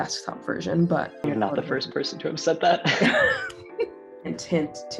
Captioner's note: laughs